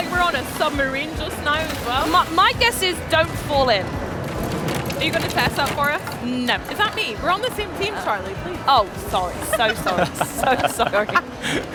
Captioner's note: laughter